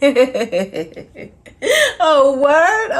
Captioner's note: laughs